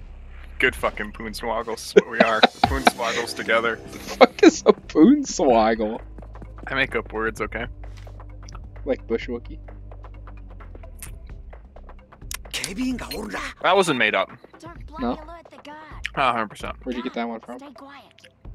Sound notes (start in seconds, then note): 4.2 laughs